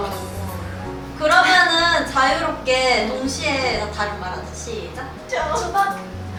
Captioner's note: haha